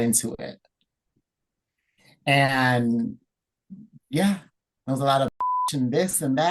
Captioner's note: beep